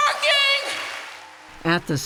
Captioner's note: cheering and applause